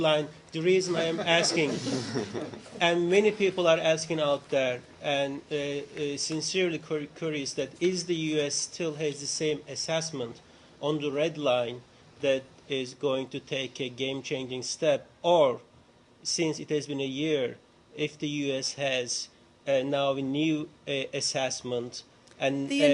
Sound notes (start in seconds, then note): 3.6 laughter